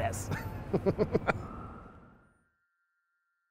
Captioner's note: laughing